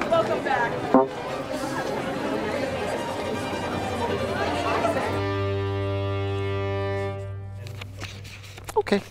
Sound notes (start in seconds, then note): 0.9 electronic tone beeps; 2.0 participants chattering; 2.0 tense dramatic music